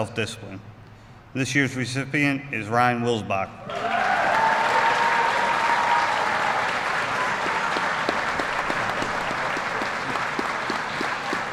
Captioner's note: applause